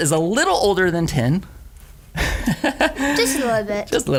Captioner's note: laughs